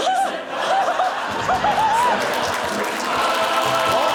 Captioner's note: giggles